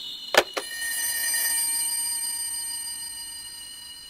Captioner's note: phone rings